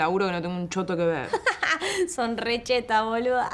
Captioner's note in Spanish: risas